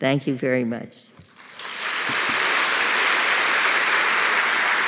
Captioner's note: applause